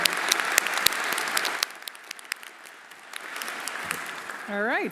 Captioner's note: everyone applauding